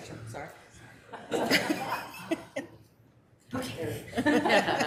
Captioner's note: members laughs